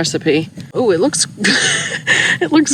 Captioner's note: laughs